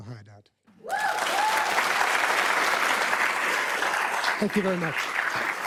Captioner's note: crowd applauding